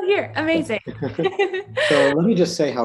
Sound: laughing

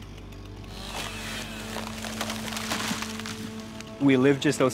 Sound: wood cracking

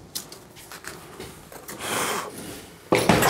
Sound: blowing

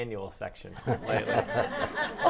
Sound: laughing

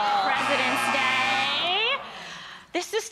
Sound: audience groaning

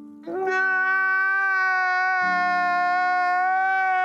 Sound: man crying

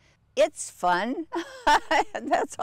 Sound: laughs

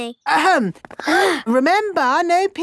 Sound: all gasp

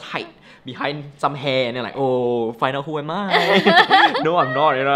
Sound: both laugh

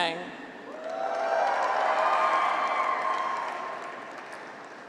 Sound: graduates cheer

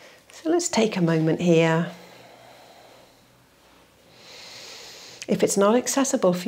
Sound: exhales and inhales

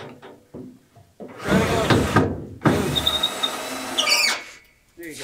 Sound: drilling

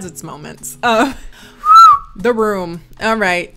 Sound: whistles

